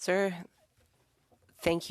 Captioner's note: speaking French